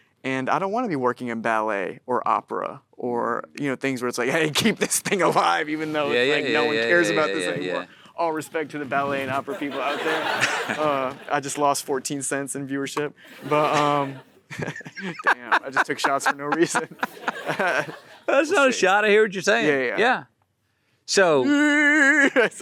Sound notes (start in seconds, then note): 9.2 audience laughing; 10.3 Matthew chuckles; 13.2 audience laughing; 14.4 Matthew laughs; 14.5 Timothée chuckles; 17.0 Matthew & audience laughing; 21.1 Timothée vocalizing